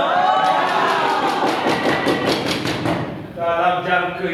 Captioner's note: animals cheer